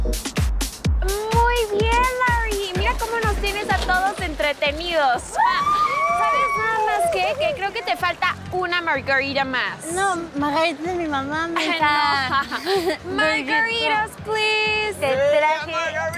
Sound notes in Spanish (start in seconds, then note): 5.6 Grita